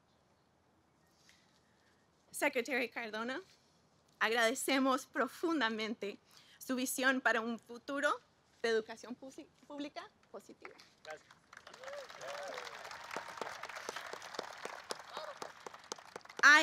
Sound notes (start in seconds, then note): 8.0 speaks Spanish; 10.7 applause